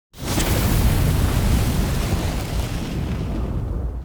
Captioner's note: fire roaring